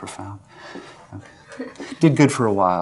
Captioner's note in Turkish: Kahkaha